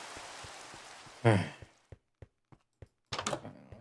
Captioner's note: sigh